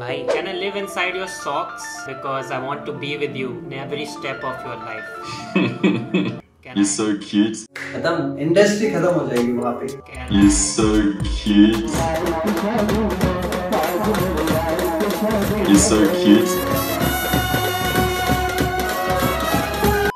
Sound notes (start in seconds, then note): 5.4 snickers